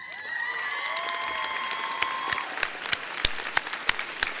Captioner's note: audience cheering